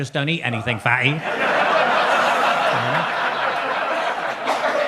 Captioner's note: audience laughs